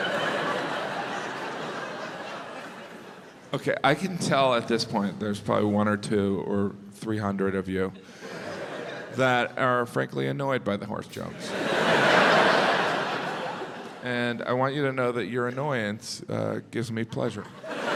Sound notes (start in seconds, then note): 0.0 crowd laughs; 11.3 crowd laughs